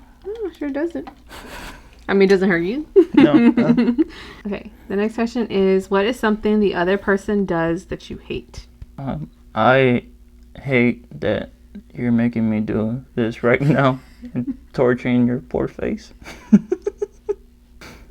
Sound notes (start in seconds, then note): 3.0 giggle; 3.0 stifled laugh; 16.2 giggle